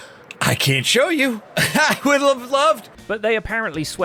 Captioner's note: nervous laugh